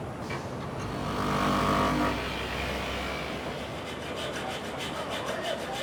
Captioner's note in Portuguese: som da serra